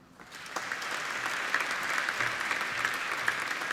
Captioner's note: applauding